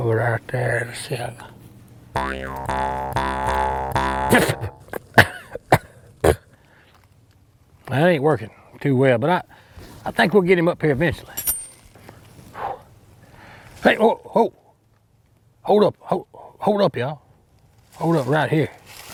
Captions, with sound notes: Oh, right there, let's see. (instrument vibrating) (coughing) That ain't workin' too well, but I think we'll get him up here eventually. Hold up. Hold up, ya'll. Hold up right here.